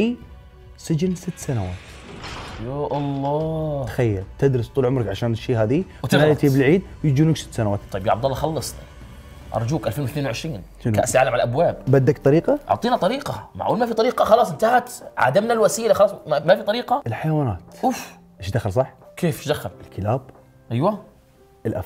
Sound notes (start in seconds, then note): none